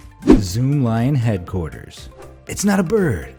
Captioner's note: graphic whooshing